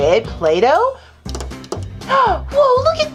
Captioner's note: fingers tapping